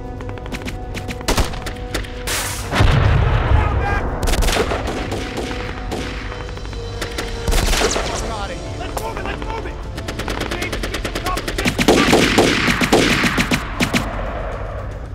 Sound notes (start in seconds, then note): 2.6 explosion booming; 12.3 guns firing